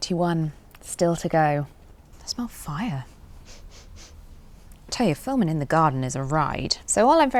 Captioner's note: sniffs